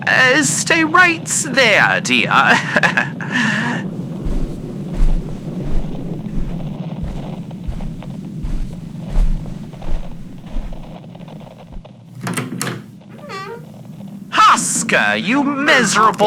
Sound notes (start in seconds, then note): 4.8 Alastor walks over to the door and opens it fx